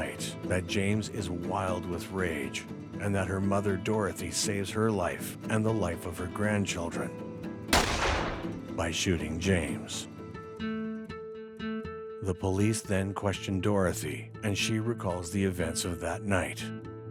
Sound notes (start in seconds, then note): 7.7 gunshot exploding; 10.4 gentle music